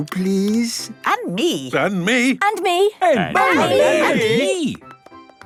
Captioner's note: calling out in turn